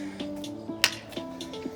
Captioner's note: bottle clicks shut